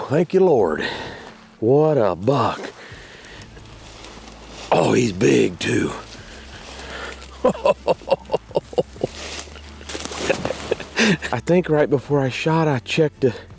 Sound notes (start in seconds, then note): 6.7 leaves rustling; 7.9 chuckling